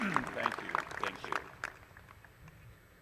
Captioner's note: applause